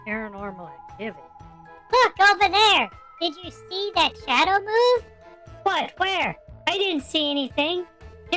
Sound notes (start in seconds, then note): 2.4 excitedly